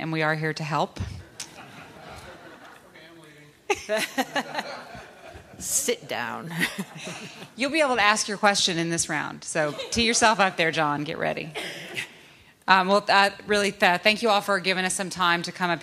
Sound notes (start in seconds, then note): 6.4 laughter